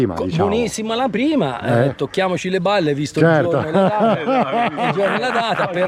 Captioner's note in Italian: risate